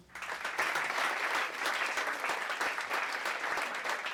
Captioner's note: audience applauding